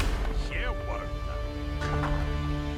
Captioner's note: townspeople chattering